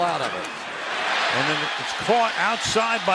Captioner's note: cheering